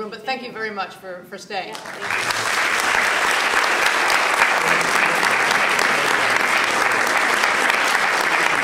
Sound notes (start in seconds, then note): 1.7 applause